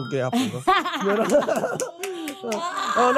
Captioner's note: both laughing; clapping